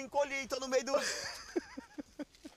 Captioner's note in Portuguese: rindo